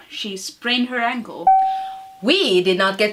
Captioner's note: ding